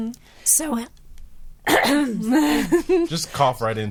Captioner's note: coughs